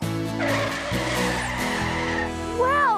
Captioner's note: tires Squealing